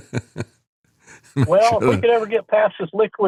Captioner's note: laughs